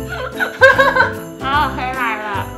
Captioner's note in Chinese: 爆笑